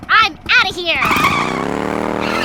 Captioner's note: breaks squeal; tires squeal and engine rumbles